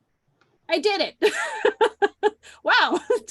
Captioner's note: laughs